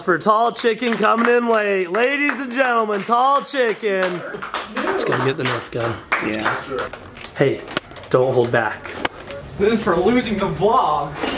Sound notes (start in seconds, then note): 4.1 audience applause